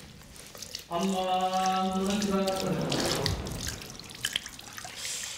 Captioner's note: prayer in Arabic